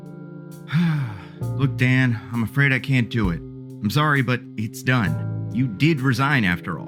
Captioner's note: sigh